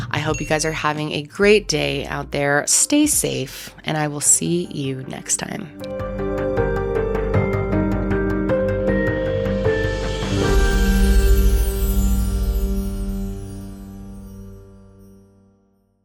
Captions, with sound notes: I hope you guys are having a great day out there. Stay safe, and I will see you next time. (mysterious music) (chimes twinkling)